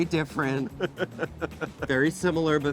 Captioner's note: laughs